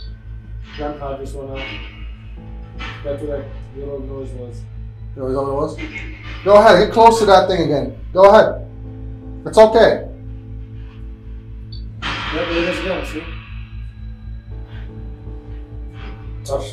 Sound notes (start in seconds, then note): 3.2 crew speaking softly; 12.0 radio noise reverberating